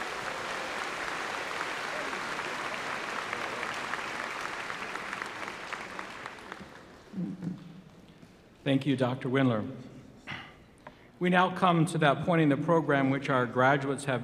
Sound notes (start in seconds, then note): 5.8 applause